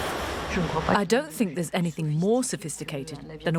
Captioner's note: voiceover